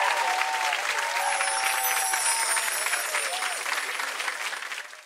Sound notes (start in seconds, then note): 1.1 chimes